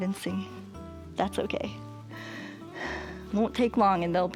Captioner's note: inhales and exhales